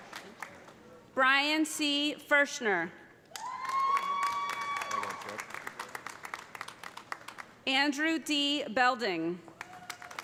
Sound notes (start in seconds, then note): 3.4 audience cheering; 3.4 audience applauding; 9.5 audience applauding; 10.0 audience cheering